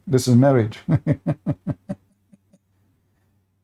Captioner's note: Ketawa